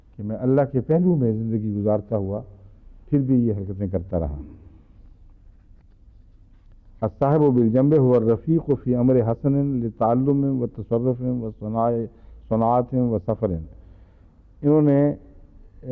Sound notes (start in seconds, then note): 7.2 Arabic